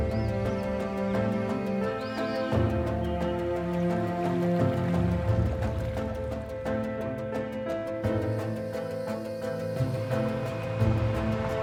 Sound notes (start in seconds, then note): 1.8 birds tweeting